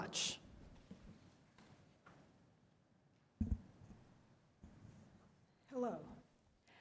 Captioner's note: quiet room